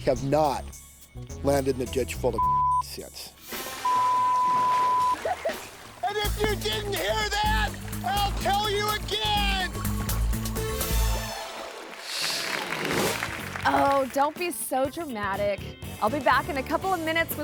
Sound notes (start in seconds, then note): 10.3 upbeat music; 12.3 audience applauds